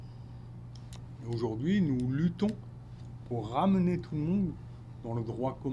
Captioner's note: speaking French